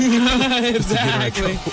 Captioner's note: laughing